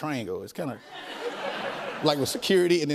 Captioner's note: laughter